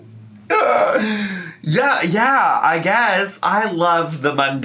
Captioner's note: laughs